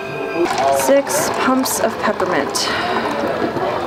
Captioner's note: sighs